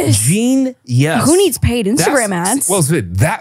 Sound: laughs

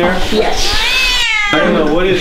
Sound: meow

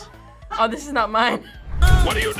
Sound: laughs

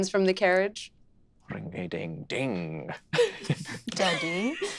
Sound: chuckling

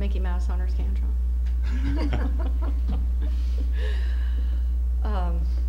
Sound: chuckling

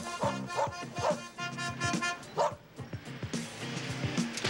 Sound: horn honks

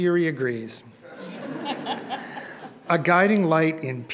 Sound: audience laughs

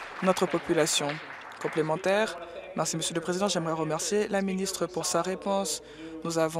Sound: applause

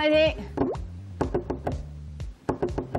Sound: fancy door knocking

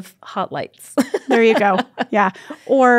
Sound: laughs

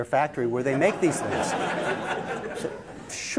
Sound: laughter

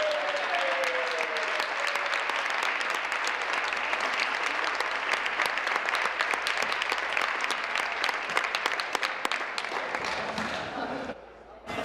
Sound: applause

